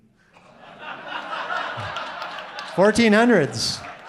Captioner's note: audience laughing